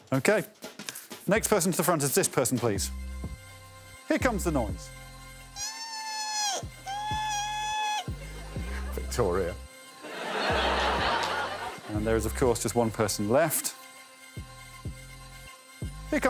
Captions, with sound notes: I'm gonna say Alan for that second one. Okay. Next person to the front is this person please. Here comes a noise. [Morgana cheeps] Victoria. [all laughing] And there is of course just one person left.